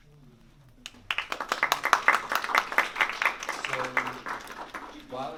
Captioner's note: applause